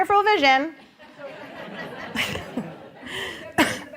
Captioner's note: laughter